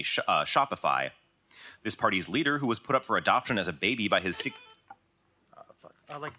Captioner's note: buzz